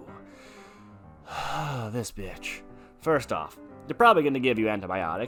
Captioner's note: sigh